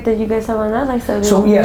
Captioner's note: murmurs